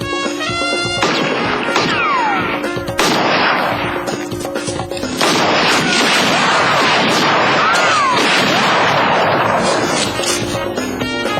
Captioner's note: gunshots